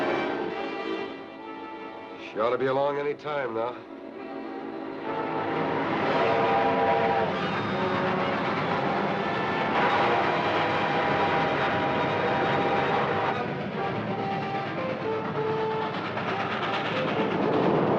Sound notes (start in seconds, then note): 6.2 train horn blowing; 10.1 dramatic music